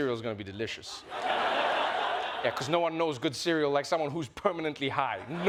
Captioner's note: laughter